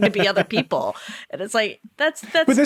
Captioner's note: laughing